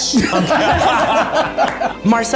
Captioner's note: everyone laughs